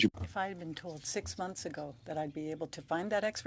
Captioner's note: speaking French